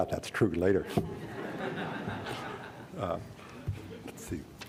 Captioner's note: laughter